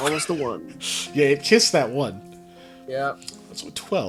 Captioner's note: laughing